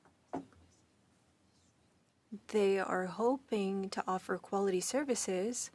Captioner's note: speaking French